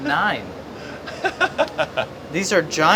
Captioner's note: chuckles